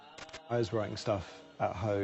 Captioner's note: none